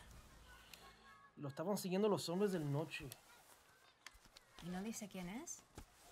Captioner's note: speaking Spanish